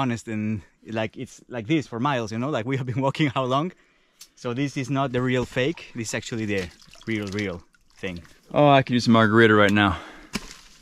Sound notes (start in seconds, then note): none